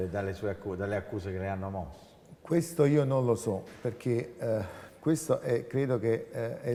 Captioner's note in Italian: sospira